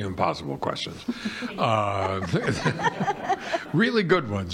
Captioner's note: audience laughing